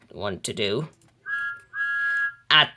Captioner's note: Thomas's whistle blows